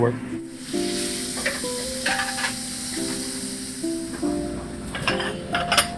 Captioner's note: mellow music; meat sizzles; plates clatter